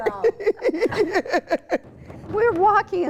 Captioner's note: laughs